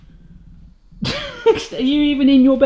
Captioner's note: laughs